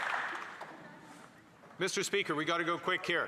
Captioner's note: some Applause